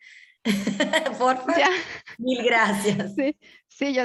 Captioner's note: laughing